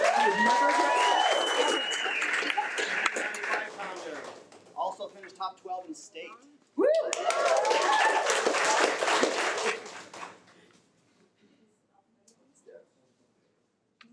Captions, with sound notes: (attendees applaud) 195 pounder, also finished top 12 in state. (attendees cheer)